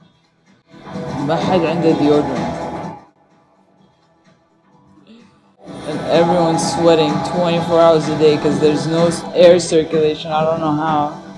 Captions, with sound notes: (In Arabic) ...and no one has deodorant. And everyone's sweating, 24 hours a day... ...'cause there's no air circulation, I don't know how.